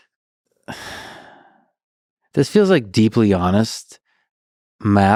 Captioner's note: sighs